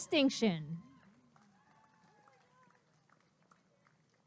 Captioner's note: applause and cheering